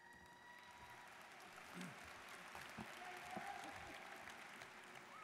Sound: students cheering and applauding

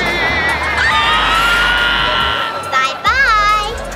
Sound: screaming

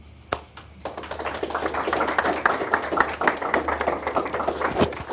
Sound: applause

